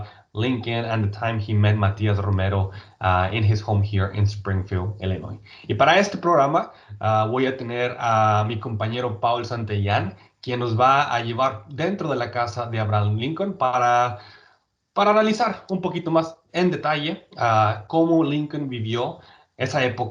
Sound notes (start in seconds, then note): 5.8 speaking in Spanish